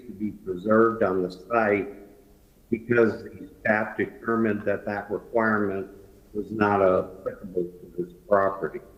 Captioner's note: ~distortion~